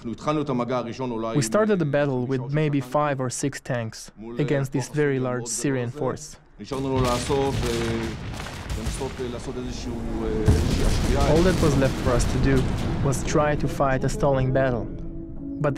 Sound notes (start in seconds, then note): 9.0 explosions booming